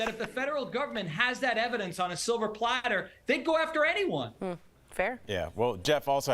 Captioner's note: laughter